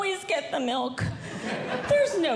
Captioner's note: audience Laughing